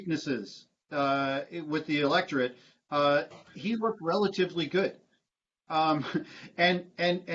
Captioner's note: laughter